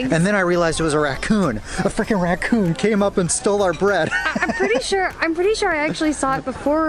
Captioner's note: laughter